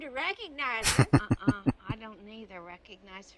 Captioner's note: chuckling